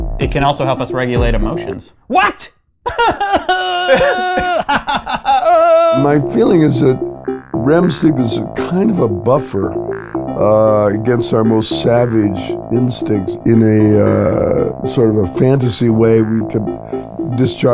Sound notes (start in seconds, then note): 2.8 sobbing; 4.5 laughing